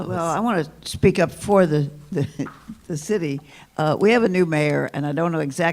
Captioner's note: laughs